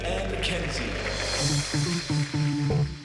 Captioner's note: applause